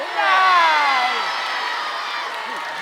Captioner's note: cheering